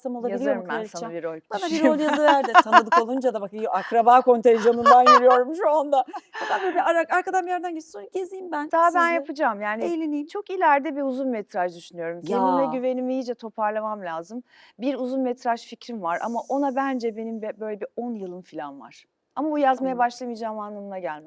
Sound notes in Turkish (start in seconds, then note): 4.6 kahkaha